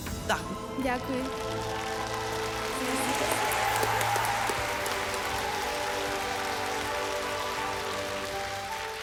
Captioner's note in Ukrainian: оплески